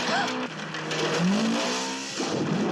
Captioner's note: engine revving; splash